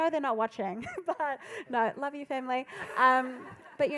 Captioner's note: laughs; laughing